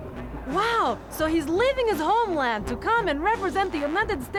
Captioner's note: Russian accent